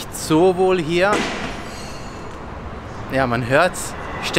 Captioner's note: glass breaks in background